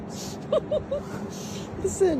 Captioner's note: laughing